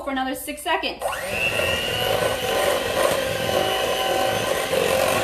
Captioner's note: mixer whirring